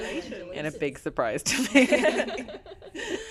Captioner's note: laughs